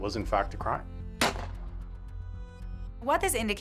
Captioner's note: gunshot exploding